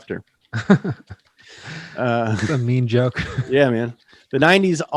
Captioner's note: laughs